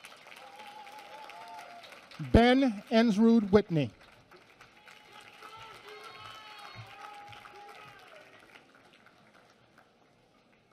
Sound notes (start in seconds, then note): 4.0 applause